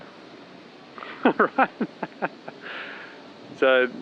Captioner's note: chuckling